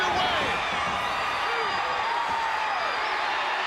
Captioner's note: crowd cheering